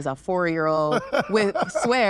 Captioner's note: laughs